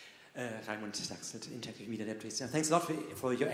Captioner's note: speaking Swedish